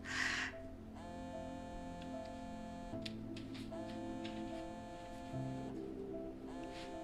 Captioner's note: phoneringing